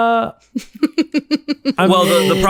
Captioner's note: laughter